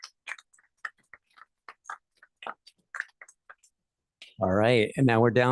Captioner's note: applause